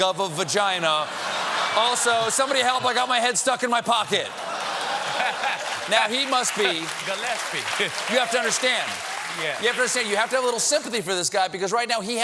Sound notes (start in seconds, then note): 4.2 applause; 4.3 laughter